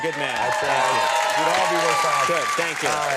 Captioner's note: crowd applauding